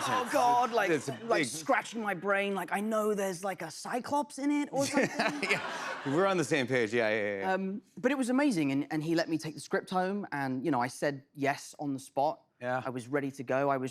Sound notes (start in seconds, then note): 4.8 laughter